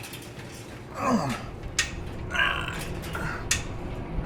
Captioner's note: Max grunting